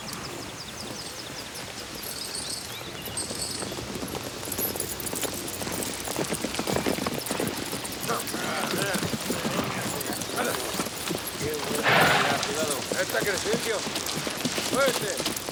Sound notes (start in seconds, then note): 3.6 hooves clop; 11.3 gang members chatter